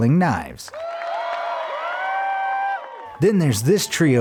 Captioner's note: crowd cheering